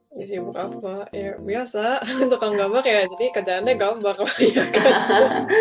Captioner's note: laughs